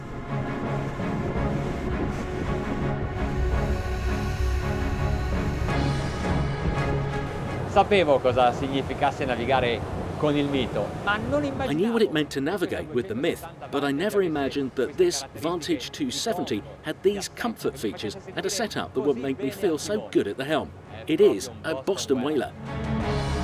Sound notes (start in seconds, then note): 0.3 dramatic music; 8.2 speaking in foreign language